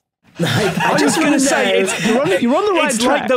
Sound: group laughing

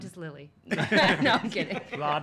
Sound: all laughing

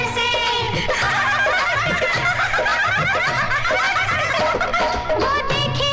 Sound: laughs

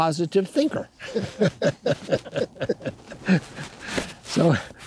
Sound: laughing

